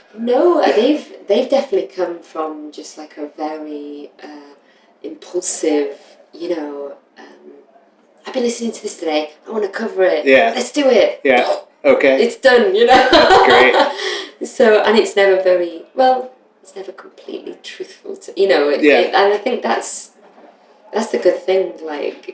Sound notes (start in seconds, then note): 12.9 laughter